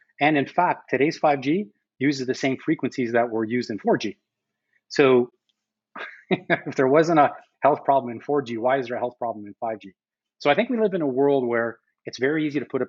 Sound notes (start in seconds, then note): 6.0 laughs